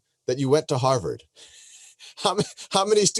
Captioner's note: laughs